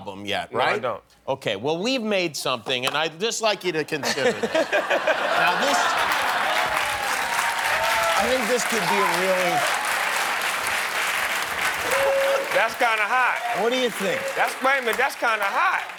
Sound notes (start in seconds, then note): 3.9 laughter; 6.7 applause